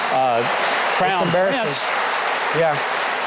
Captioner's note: audience cheering